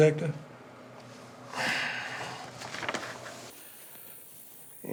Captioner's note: Dwight sighs